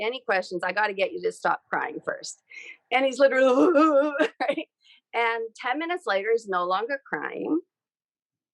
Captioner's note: sobbing